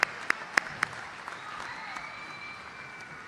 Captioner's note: applause